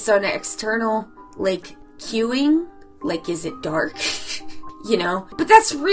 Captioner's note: chuckles